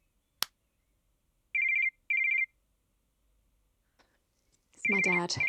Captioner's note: phone rings